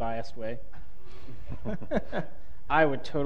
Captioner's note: laughter